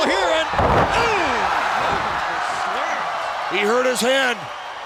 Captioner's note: audience cheers